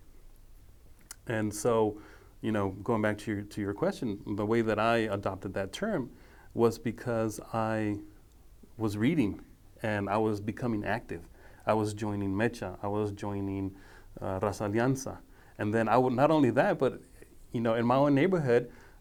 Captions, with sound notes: And so, going back to your question, the way that I adopted that term was because I was reading and I was becoming active. I was joining MEChA. I was joining (speaking foreign language). And not only that, but in my own neighborhood,